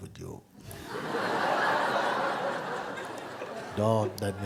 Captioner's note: laughter